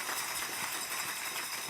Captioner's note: applause